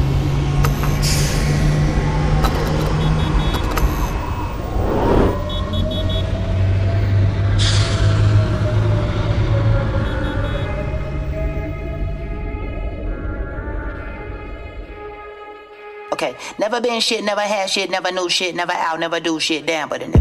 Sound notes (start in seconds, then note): 5.4 car horn beeping